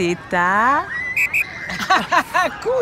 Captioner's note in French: sifflet